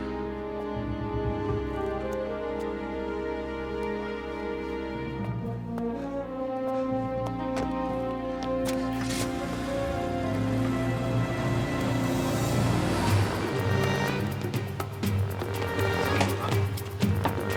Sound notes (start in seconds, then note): 0.2 dramatic music; 10.8 engine revs; 14.2 dramatic music